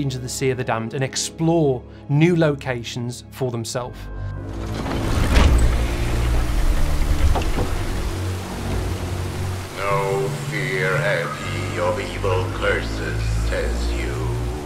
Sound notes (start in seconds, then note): 6.1 heavy old door turning